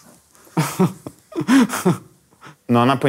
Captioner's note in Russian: смеются